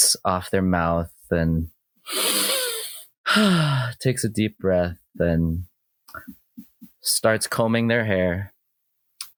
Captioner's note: Driftwood audibly inhales and exhales